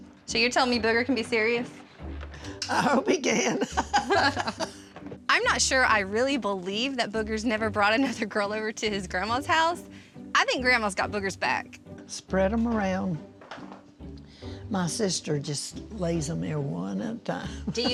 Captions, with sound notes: SO YOU'RE TELLING ME BOOGER CAN BE SERIOUS? I HOPE HE CAN! [LAUGHING] I'M NOT SURE I REALLY BELIEVE THAT BOOGER'S NEVER BROUGHT ANOTHER GIRL OVER TO HIS GRANDMA'S HOUSE. I THINK GRANDMA'S GOT BOOGER'S BACK! SPREAD 'EM AROUND. MY SISTER JUST LAYS 'EM THERE ONE AT A TIME.